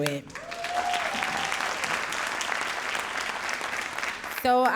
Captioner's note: audience cheering and applauding